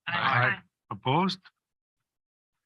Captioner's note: silence